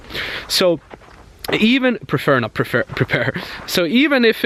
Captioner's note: chuckles